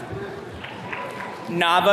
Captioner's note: attendee clapping